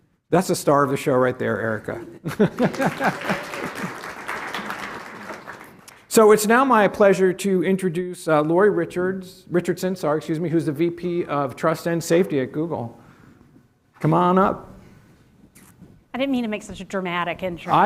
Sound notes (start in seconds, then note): 2.4 applause